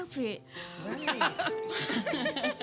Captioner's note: all laughing